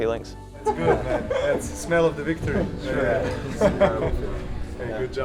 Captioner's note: chuckling